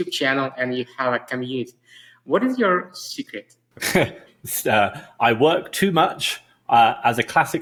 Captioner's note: laughs